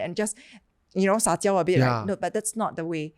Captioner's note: speaking in Chinese